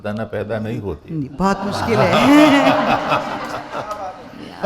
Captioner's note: laughter around!